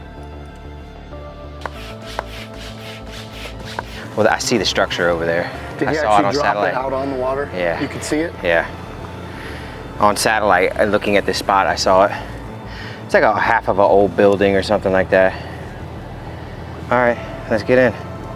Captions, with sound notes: (gentle music) (air pump hissing) - Well, I see the structure over there. - Yeah, I see it dropped out on the water. You could see it? - Yeah. On satellite, looking at this spot, I saw it. It's like a half of a old building or something like that. All right, let's get in.